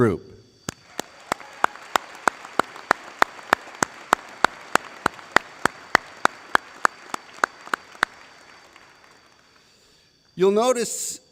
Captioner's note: applause